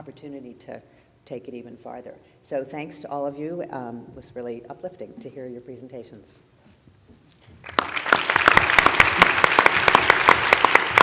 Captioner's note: applause